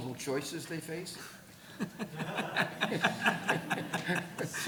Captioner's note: chuckling